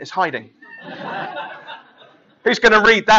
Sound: laughing

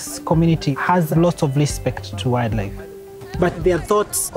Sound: group chatter and chant

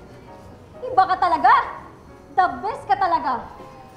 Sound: sarcastically

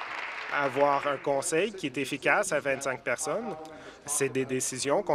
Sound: applause

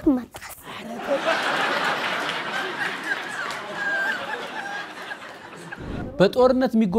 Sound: laughter

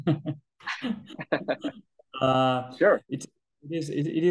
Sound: laughing

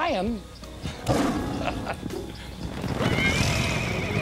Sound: lion roaring

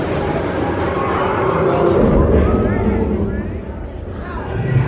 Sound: creature roaring

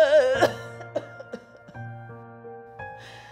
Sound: more coughing

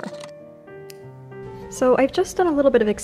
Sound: snip!

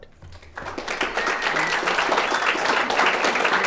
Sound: all applauding

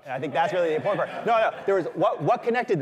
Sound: laughter

